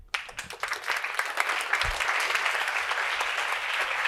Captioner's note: audience applauds